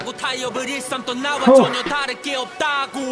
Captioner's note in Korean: 허우